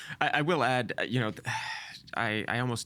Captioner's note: sighing